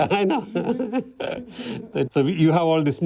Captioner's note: both laugh